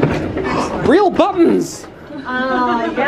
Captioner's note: gasps